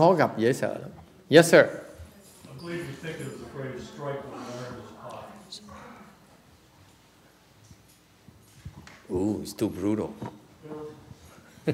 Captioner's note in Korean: 청중에서 얘기 중